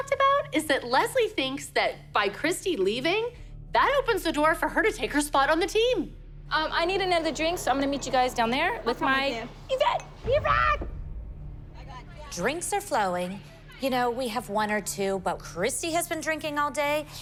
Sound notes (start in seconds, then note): 10.0 cheers